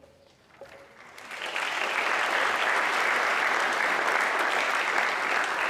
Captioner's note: audience clapping